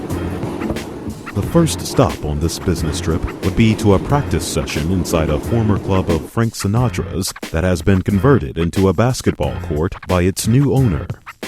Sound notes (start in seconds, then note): 1.4 voiceover